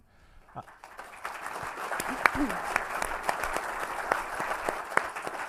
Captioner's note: audience applauding